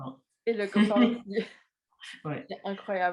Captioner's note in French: rires